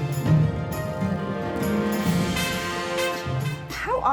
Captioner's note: parade marching